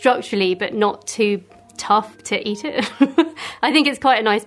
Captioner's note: laughs